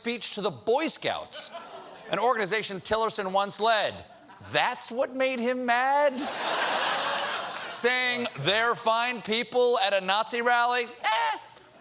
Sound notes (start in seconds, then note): 6.1 laughter